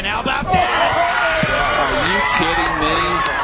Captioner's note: crowd cheering